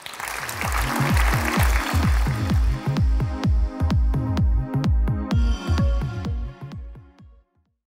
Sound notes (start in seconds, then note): 0.0 audience applause; 2.8 bright music